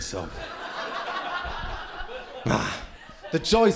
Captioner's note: crowd laughing